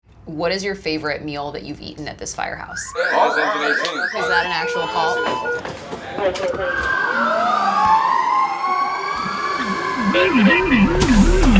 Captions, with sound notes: “What is your favorite meal that you’ve eaten at this firehouse?” [SIRENS] “Is that an actual call?” [EMERGENCY SIRENS]